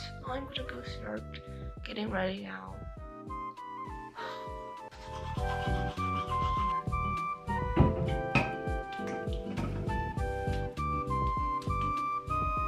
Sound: sighs again alkfja

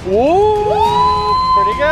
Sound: excited yell; excited scream

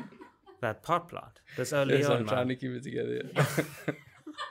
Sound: laughing

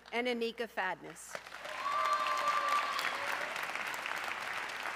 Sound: audience cheering

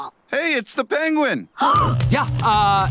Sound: gasps

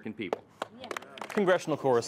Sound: applause

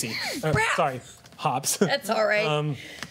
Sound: surprised sound

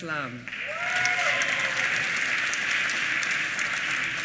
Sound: applause

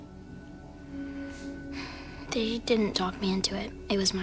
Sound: sighs

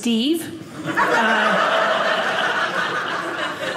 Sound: audience laughing

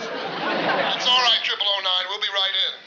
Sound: on walkie-talkie

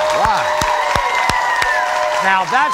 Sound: applauding; cheering

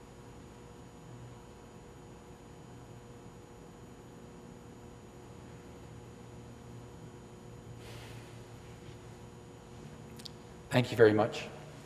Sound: moment of Silence

